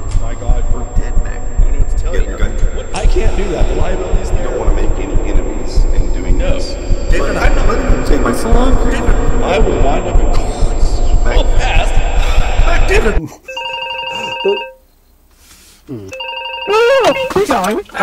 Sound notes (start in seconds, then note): 13.4 happy Techmoan noises; 13.5 phone ringing